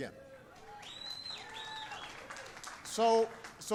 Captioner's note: applause